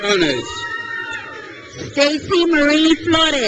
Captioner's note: crowd cheers